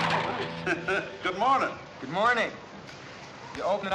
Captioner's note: chuckling